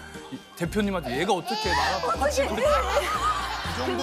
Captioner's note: Tears